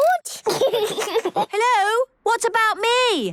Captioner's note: giggles